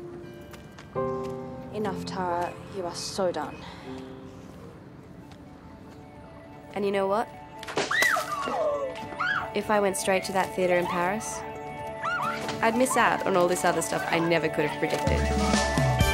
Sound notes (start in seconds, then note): 7.8 screams